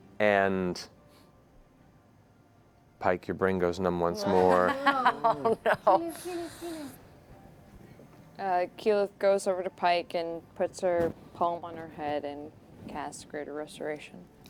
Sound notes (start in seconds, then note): 4.2 laughing